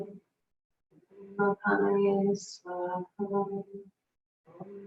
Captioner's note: continues chanting